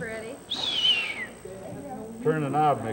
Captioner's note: whistle